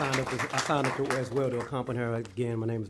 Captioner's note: applause